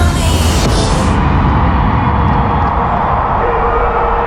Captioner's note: crowd cheering